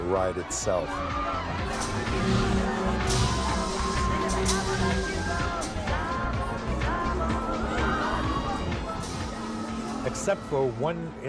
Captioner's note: crowd Noise